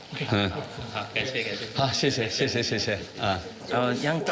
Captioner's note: both speaking foreign language